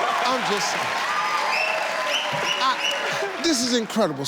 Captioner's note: audience cheers